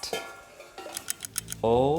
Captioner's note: lid clings; ticking